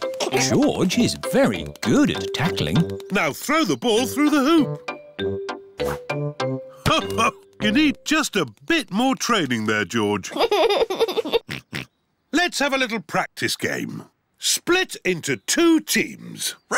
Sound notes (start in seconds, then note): 10.3 giggles and oinks